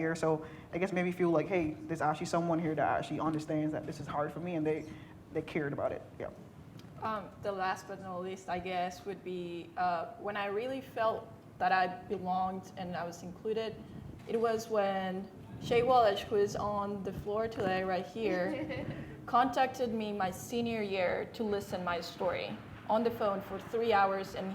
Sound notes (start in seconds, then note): 18.3 laughing